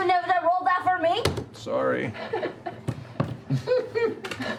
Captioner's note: laughter